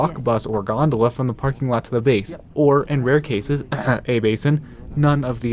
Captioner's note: clear throat